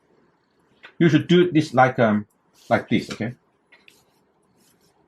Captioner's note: fine brushing